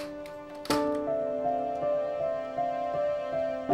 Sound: door clicking

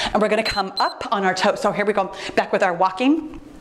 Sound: timer beeps

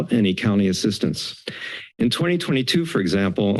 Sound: inhales

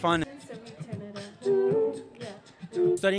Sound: beatboxing

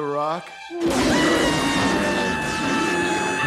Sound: bear growling; screaming

